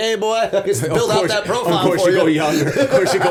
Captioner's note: laughter